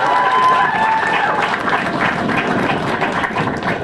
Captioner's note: applause